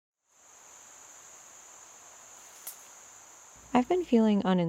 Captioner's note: cicadas humming pleasantly